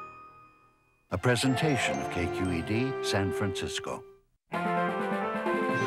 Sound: voiceover

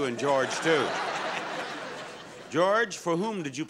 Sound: audience laughing

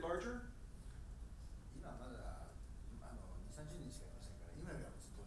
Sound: speaking in foreign language

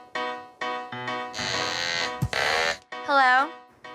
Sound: duck phone ringing

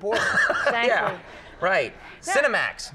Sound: Conan laughs

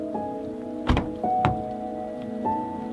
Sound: car door closing; car door opening

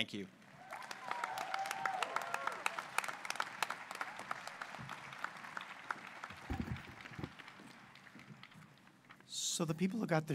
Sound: applause

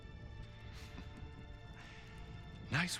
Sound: laugh

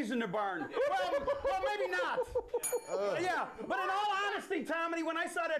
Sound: bell rings

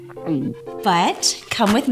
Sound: gulps

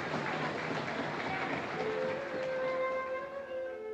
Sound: audience cheering

